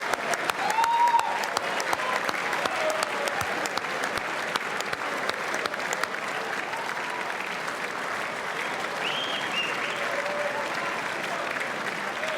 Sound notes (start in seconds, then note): 0.0 whistles; 0.0 applause